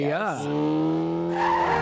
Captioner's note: tires screeching; motorcycle engine; horn honking